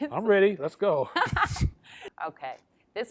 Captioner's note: laughs